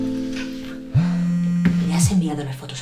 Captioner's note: phone buzzing